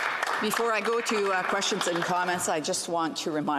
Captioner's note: some Applause